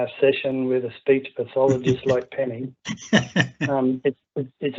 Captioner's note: laughing